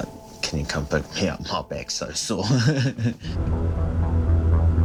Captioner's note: chuckling